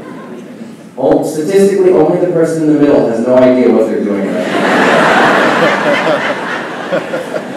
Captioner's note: laughing